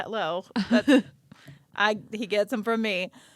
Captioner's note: laughing